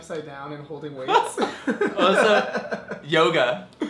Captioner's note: laughs